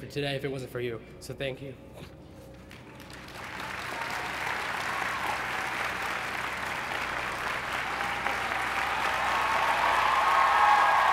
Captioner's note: applause